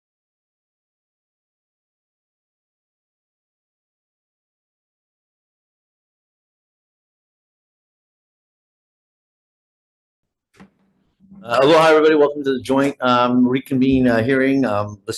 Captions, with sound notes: (gavel knocks) - Aloha, everybody, welcome to the Joint Reconvene Hearing,